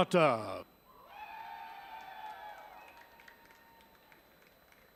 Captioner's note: audience cheering